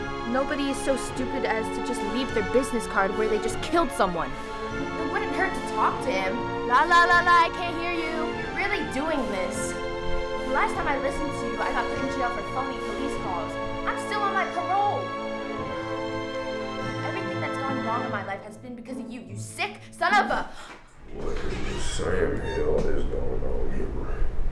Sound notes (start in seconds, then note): 20.5 gasp